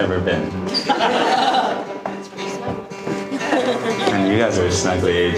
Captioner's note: audience laughing